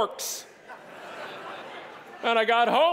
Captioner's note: audience laughing